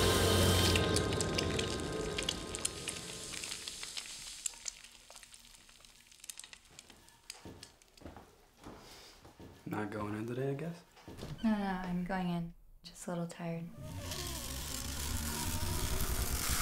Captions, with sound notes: (sizzling) Not going in today I guess? - No, no, I'm going in. I'm just a little tired.